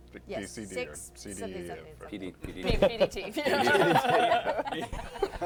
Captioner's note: laugh